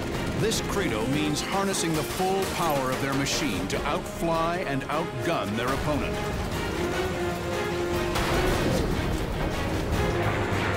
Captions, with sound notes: This credo means harnessing the full power of their machine to outfly and outgun their opponent. [dramatic music plays] [clanging]